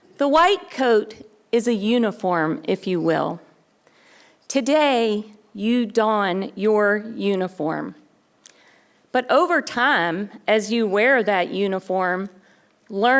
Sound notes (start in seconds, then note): none